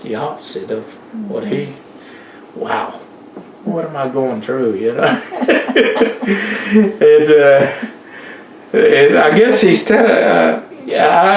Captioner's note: laughter